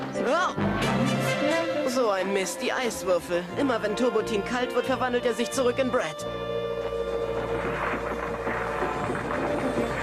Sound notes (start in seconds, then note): 3.8 speaking in foreign language